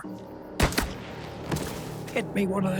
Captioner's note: gunshot